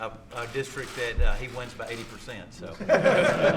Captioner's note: laughter